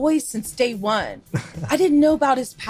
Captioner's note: chuckle